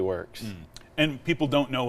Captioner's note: humming